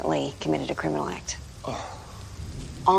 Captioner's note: sighs